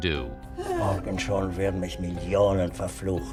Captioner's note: speaking german